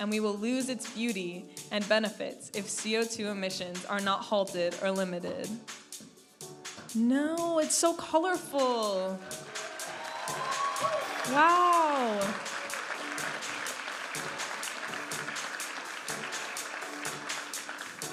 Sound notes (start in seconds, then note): 9.8 audience applauding and cheering; 13.1 audience applauding and cheering; 14.8 upbeat music